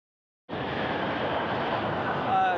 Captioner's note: planes roar